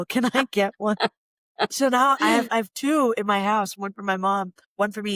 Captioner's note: laughter